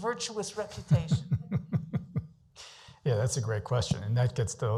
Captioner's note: chuckles